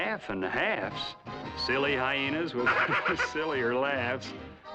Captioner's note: chuckles